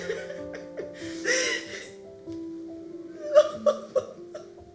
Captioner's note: sobbing and laughing